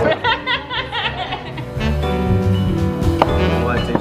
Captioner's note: laughing